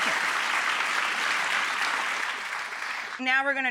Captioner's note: applause